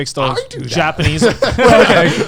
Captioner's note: all laughing